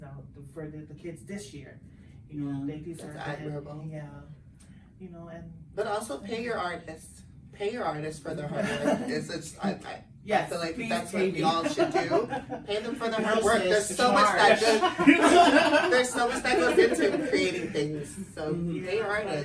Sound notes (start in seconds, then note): 11.5 laughs; 14.6 everyone laughs